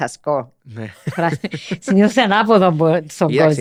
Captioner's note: he laughs